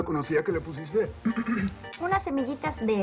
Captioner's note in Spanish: carraspea